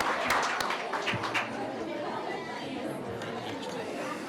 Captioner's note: people chattering